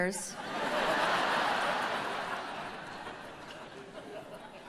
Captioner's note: audience laughs